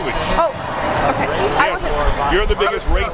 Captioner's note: surprised exclamation